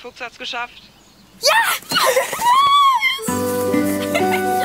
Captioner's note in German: Beide kreischen, lachen; Fröhliche Musik